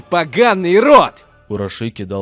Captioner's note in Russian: Урашики *с злостью